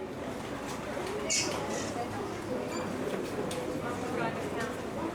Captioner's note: subtle outdoor ambience sound